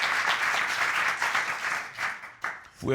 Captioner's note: audience applauding